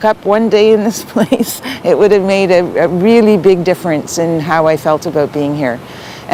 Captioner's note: laughs